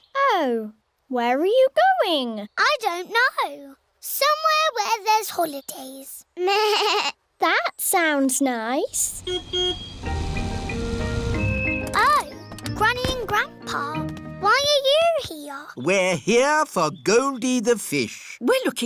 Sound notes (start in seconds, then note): 9.2 car horn beeps